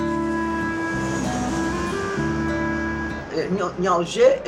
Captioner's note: plane landing